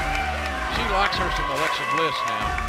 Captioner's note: cheers and applause